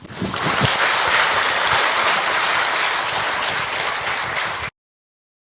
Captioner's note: applause